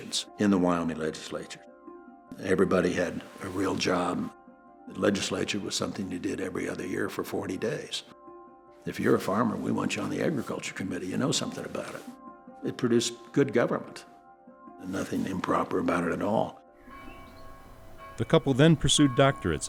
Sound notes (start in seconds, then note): 16.8 bells chiming; 18.1 voiceover